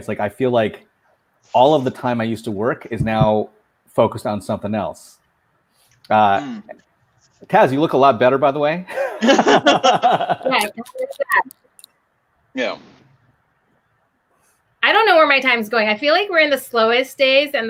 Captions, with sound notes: It's like I feel like all of the time I used to work is now focused on somethin' else. Taz, you look a lot better by the way. (laughing) - Yeah. (laughing) - Yeah. - I don't know where my time's going. I feel like we're in the slowest days